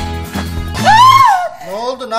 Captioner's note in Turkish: Çığlık atar